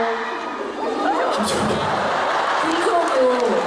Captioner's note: laughs